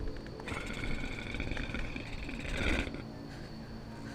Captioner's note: werewolf growling